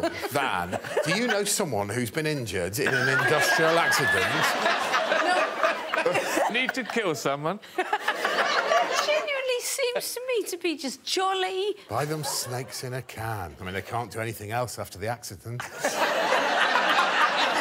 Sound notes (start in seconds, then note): 6.1 all laughing